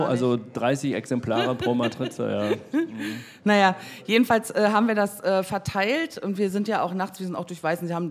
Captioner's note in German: lacht